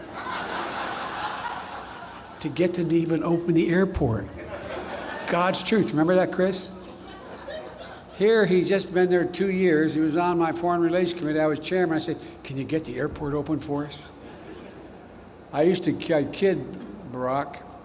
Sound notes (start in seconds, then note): 0.0 laughter; 4.2 laughter; 6.8 laughter; 14.2 laughter